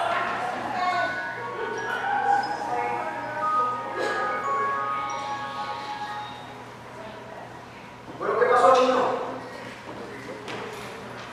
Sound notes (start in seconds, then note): 1.2 cellphones sounds